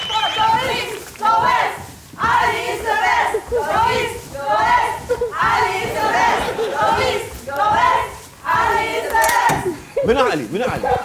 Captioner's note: cheering